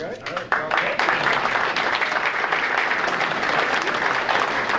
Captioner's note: audience applauding